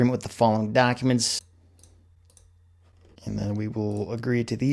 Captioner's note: mouse clicking